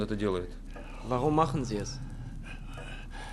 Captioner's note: speaking German